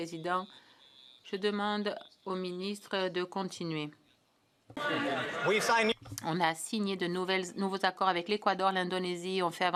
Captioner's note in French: voix de l'interprète